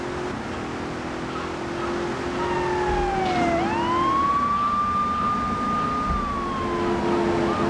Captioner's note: siren wailing